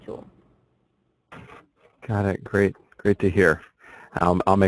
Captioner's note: voiceover